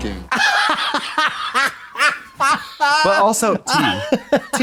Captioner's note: Katya cackles